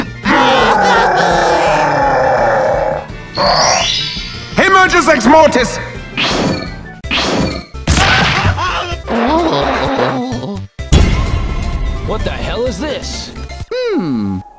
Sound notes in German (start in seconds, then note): 4.5 Magisches Kauderwelsch